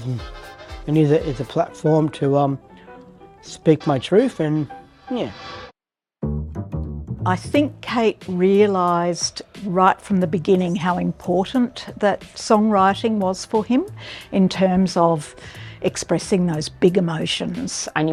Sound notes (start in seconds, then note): none